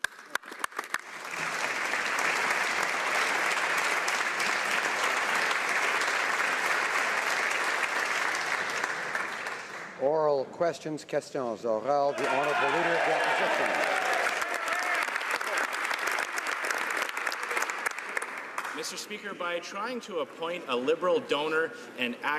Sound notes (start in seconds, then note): 5.2 applause; 14.3 speaking French; 17.0 some Applause